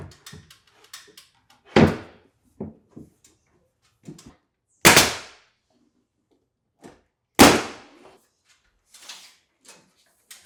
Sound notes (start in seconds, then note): 1.5 wood thuds; 4.9 nail gun popping; 7.4 nail gun popping